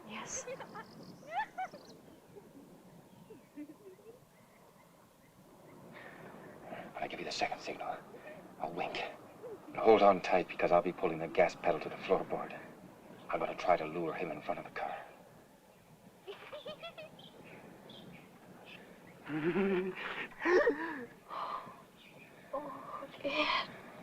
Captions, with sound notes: - Yes. [ JUDY LAUGHING IN AFAR ] I give you the second signal, a wink. Hold on tight because I'll be pulling their gas pedal to the floor board. I'm gonna try to lure him in front of the car. [ JUDY LAUGHS ] [ LAUGHS ]